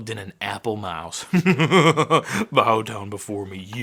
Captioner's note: evil laughing